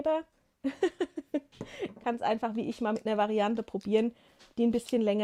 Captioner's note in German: gelächter